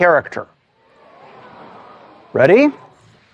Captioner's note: gasps from audience